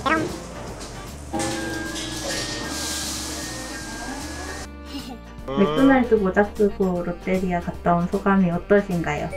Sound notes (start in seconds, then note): 1.3 ring, ring, ring